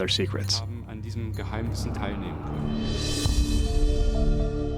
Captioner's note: non-english speech